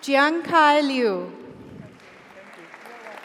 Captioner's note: audience cheers; audience applauds